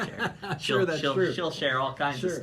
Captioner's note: laughing